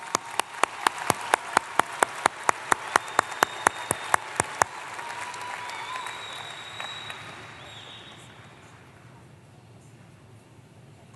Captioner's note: applause